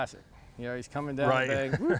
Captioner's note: chuckles